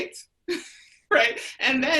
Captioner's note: laughs